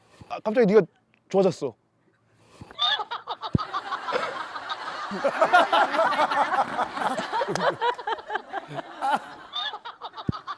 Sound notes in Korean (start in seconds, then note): 2.7 웃음소리